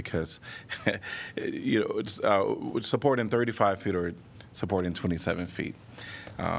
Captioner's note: laughter